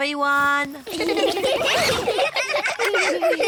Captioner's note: all giggling